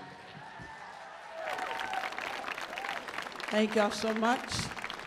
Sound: audience cheers

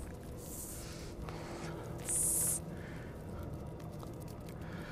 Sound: hissing

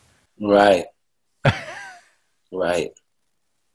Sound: Sadhguru laughs

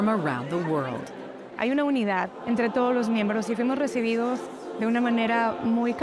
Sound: speaks Spanish

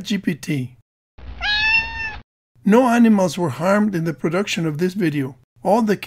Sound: meow

